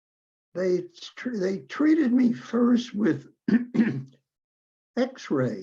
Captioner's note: clearing throat